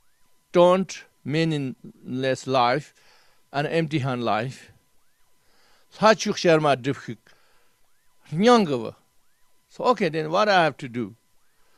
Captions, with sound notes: don't meaningless life, and empty handed life. [Tibetan] So okay then, what do I have to do?